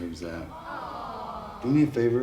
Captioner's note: "Awww" from the crowd